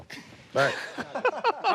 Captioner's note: laughter